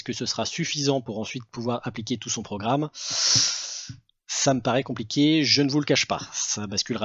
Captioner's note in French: bruit de bouche